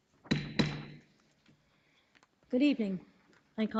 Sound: gavel pounding

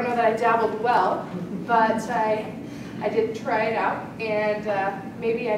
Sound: laugh

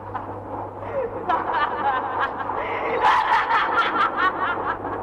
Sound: laughs

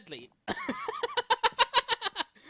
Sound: laughing

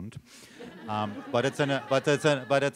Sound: laughter

